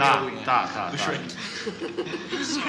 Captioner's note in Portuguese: Risos